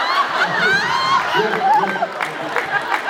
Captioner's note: laughs